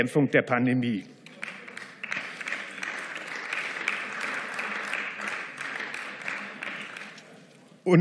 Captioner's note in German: Beifall